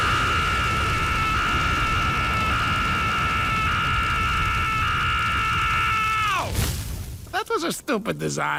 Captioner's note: screaming continues